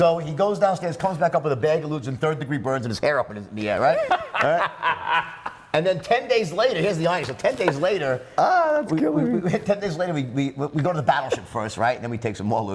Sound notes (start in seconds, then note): 3.9 laughter